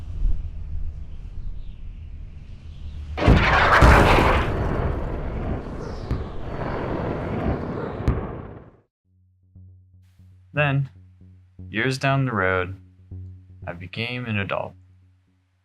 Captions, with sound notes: (rocket fires) Then, years down the road, I became an adult. (plays guitar)